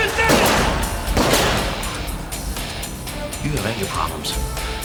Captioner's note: firing continues